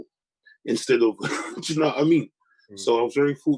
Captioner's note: chuckles